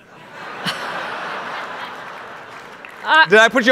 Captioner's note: audience laughs